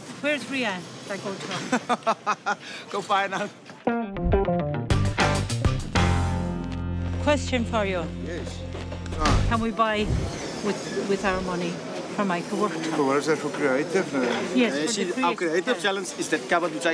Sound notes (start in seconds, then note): 1.7 Clyde laughs; 3.8 lively music